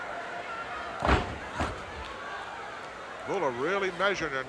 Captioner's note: body thuds